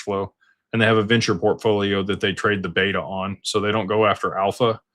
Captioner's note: none